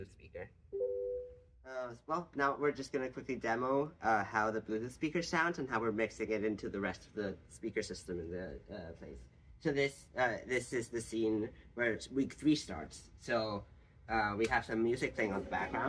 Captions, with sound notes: speaker. [NOTIFICATION BEEP] Well, now, we're just going to quickly demo how the Bluetooth speaker sounds and how we're mixing it into the rest of the speaker system in the place. So this is the scene where week three starts. So we have some music playing on the background.